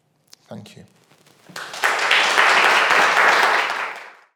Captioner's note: audience clapping